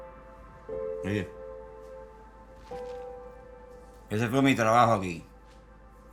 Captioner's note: speaks in foreign language